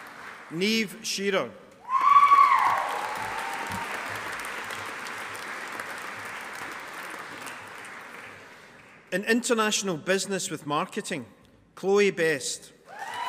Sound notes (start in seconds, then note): 1.9 audience applauding